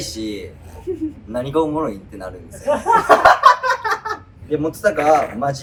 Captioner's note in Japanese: 笑い声